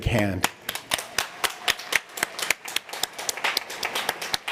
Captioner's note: applause